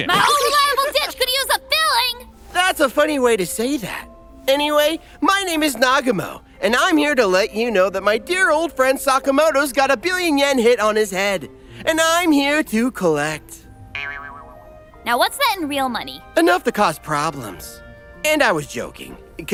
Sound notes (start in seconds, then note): 13.9 boinging